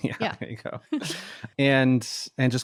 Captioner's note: laughs